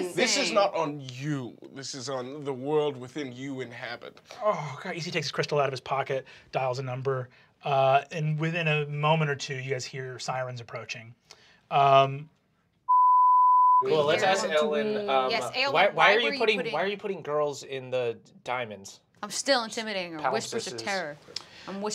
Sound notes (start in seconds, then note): 12.9 beeping